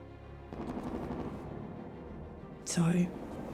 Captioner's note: distant gun fires rapidly